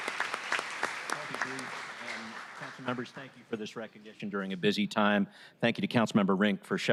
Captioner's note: applause